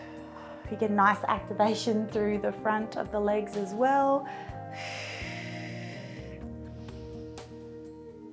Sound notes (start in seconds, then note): 4.2 breathing deeply